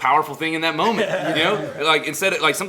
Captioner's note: laughter